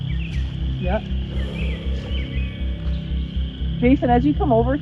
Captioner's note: exhales